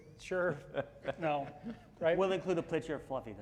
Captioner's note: laughing